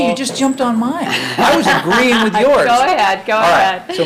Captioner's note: laughs